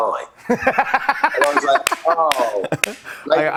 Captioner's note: laughs